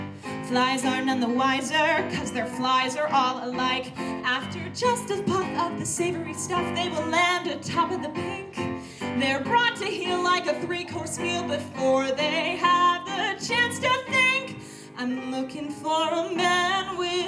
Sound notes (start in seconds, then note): none